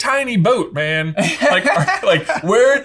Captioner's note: laughing